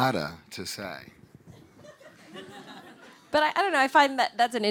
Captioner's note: audience laughing